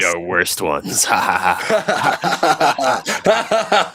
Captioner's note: laughter